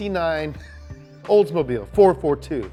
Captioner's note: laughs